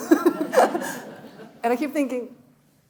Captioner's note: laughing; audience laughing